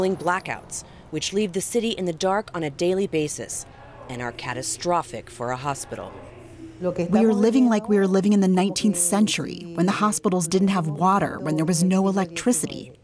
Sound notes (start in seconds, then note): 7.0 through translator